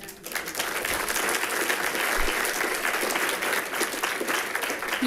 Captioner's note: people clapping